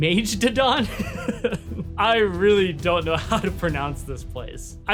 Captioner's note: laughs